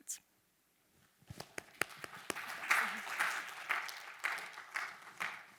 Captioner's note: attendees clapping